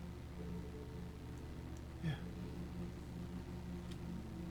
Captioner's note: whispering